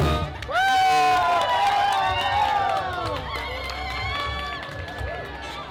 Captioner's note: festive music; activists cheering and applauding